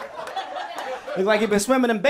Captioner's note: people laughing